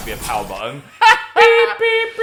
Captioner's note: Dan laughing